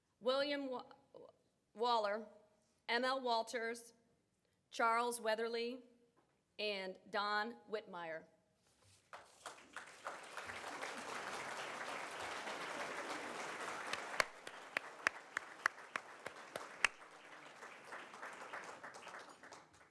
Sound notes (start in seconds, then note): 9.1 audience applauds